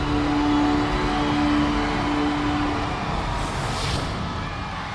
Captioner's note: audience cheers